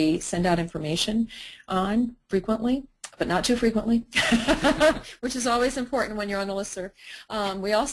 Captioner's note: laughter